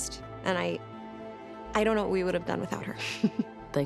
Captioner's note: chuckles